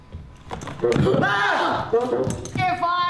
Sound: frightened noise

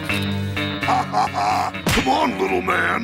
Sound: laughing

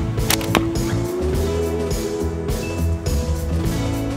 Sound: thwack

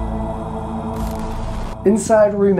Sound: static crackling

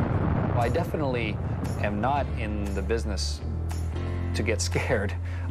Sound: rockets roaring

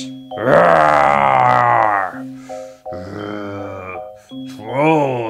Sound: roaring and grunting

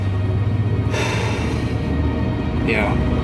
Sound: sighs

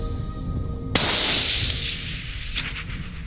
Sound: rifle shot

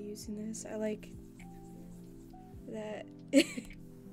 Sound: Huion pen noise

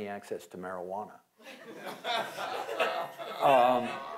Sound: laughter

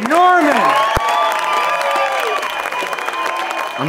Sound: cheering

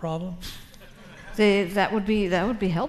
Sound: audience laughing

